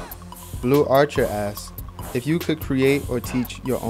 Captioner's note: voiceover